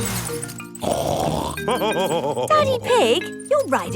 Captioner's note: snorts and laughs